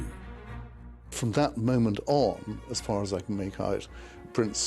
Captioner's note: voiceover